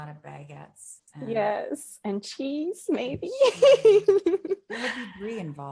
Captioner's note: giggling